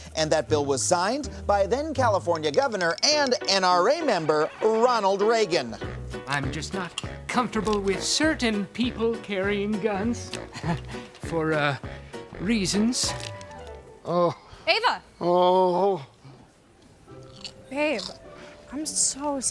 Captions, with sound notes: And that bill was signed by then California governor and NRA member, Ronald Reagan. I'm just not comfortable with certain people carrying guns. (chuckles) For, uh... reasons. Oh... Eva. Oh! Babe, I'm so sorry.